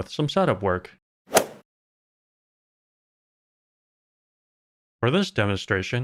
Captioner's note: golf ball hit sound